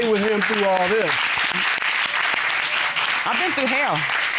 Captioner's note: applause